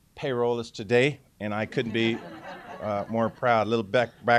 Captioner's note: laughter